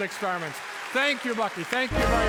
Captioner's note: audience applauding